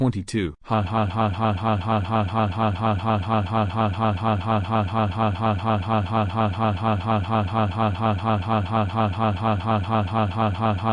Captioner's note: evil Laughs